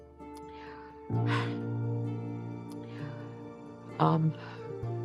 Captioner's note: sighs